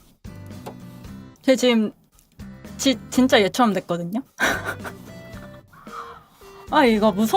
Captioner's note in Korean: 웃음